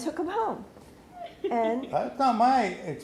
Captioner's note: laughs